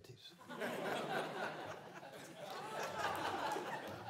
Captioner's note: laughter